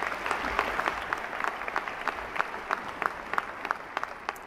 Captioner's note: applause